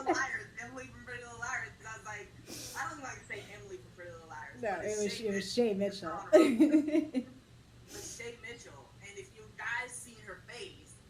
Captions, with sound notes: Emily from Pretty Little Liars. I don't even want to say Emily from Pretty Little Liars [Laughs] But it was Shay Mitchell. But it was Shay Mitchell. And if you guys seen her face--